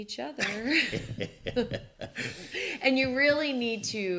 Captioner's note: laughs